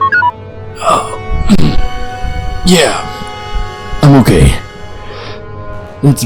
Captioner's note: grunts